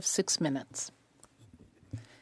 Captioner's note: speaking French